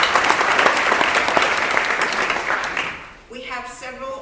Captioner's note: applause